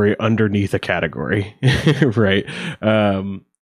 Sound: chuckles

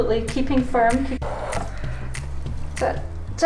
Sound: water splashes

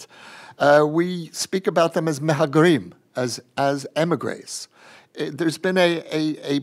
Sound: non-english

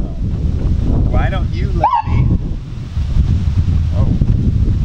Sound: siren

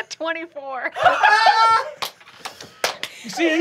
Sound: group laughs

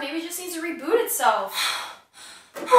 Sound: sighs, angry

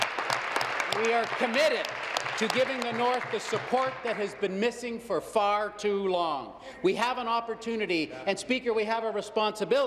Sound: applause

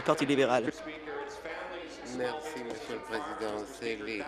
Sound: applause

